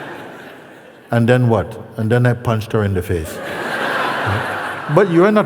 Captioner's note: laughter; laughter